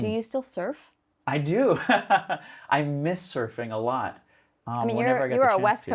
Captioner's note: laughs